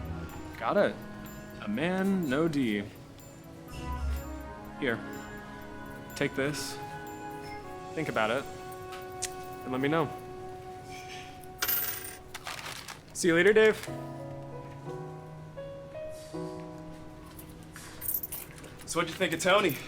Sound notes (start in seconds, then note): 11.5 coins jangling; 14.1 gentle pleasant music